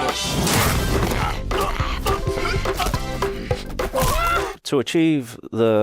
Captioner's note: quirky music; doll grunting